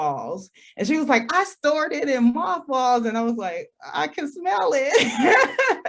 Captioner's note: laughs